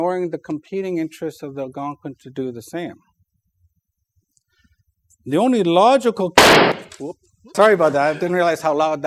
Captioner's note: gunshot sound